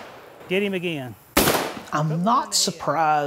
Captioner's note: gun firing